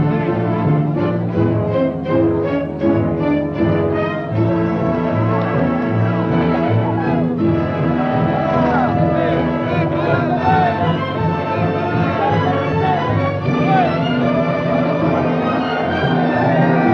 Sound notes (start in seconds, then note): 5.8 cheering